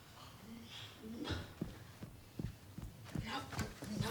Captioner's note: Leah grunting; footsteps plodding